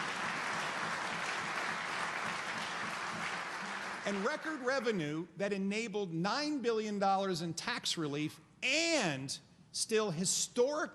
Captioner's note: applause